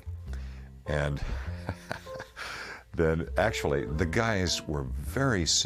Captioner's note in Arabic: يضحك